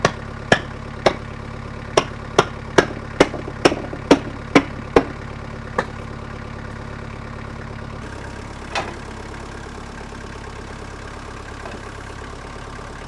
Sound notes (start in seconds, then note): 0.1 objects thunking; 5.5 engine revving